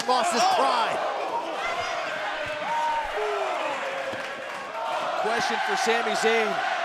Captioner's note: crowd cheering